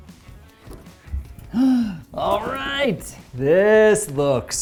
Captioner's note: gasps